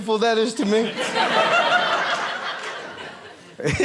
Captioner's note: audience laughing